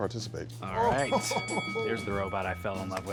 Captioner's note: bell rings